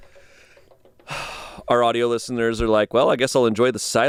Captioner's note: sighs